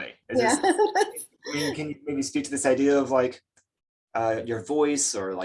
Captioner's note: laughs